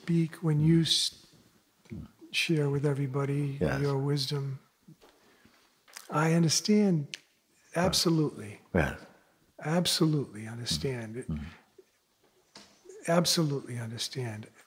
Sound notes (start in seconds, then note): 7.0 snaps fingers